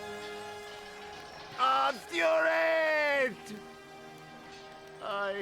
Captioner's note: speaks foreign language